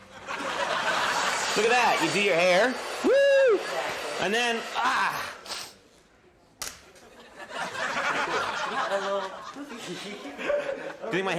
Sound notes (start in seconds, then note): 0.0 audience laughing; 5.2 sniffs; 6.6 hair dryer clacks